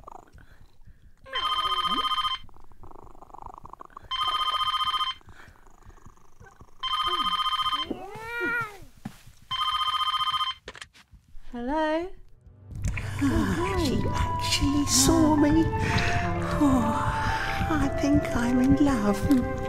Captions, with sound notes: (telephone rings) (cat meows) - Hello? - She actually saw me. Oh, I think I'm in love.